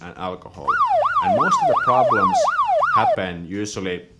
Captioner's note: siren wailing